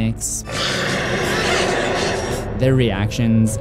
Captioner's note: roar